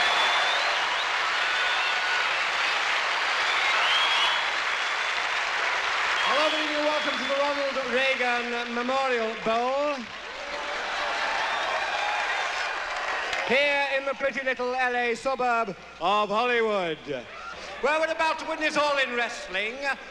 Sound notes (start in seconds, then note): 9.8 crowd laughs